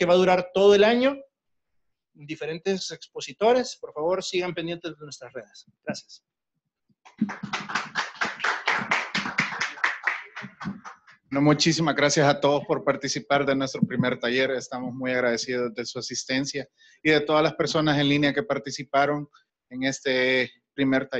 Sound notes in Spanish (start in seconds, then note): 7.1 aplausos